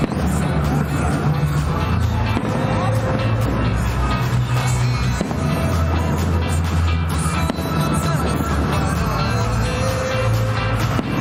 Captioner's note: fireworks sounding